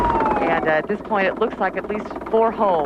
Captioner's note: sirens; helicopter whirring